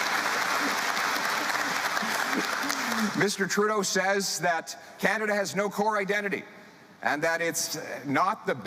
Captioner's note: applause